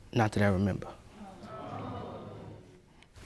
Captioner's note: audience exclaiming